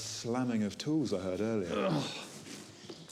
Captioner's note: Sebastian groans